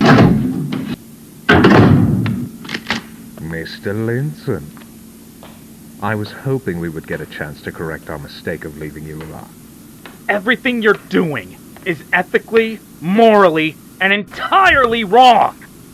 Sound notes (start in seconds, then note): 0.2 clocktower Rooftop Door Opening; 2.4 pistol Slide Racking